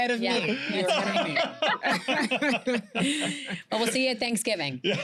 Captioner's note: laughter